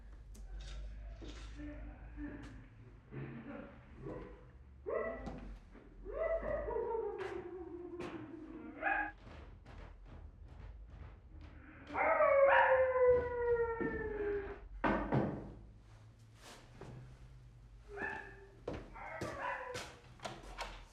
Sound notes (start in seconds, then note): 1.5 muffled grunts; 4.8 muffled barks; 8.8 muffled thuds; 11.6 muffled howls and barks; 14.8 knocks; 17.8 muffled howls and barks